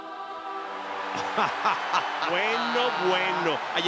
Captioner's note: laugh